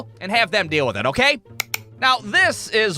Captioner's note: click